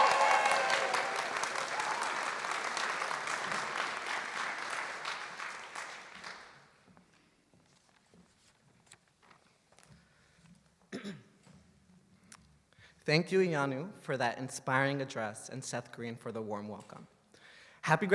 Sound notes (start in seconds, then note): 2.5 applause